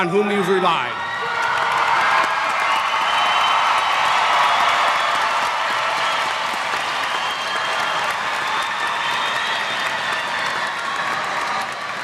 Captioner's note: cheers